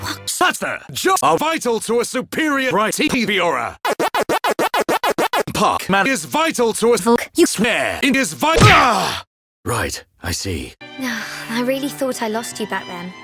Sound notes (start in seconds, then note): 0.0 stuttering; 8.5 smack